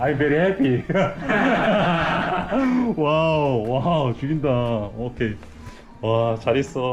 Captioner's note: hahahahahaha